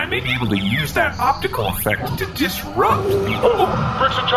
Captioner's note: door opens